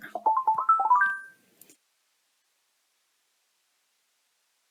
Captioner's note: computer chimes